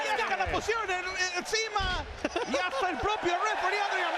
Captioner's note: laugh